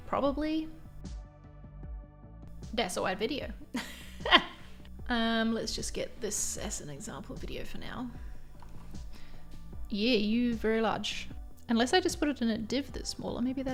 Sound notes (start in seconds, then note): 4.9 laughs